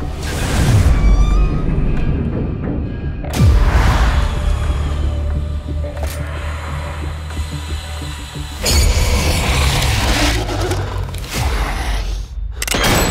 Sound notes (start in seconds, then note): 0.0 intense music; 4.0 robot whirring; 8.3 monster growling